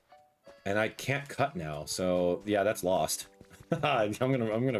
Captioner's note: laughs